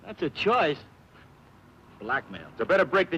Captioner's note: scoffs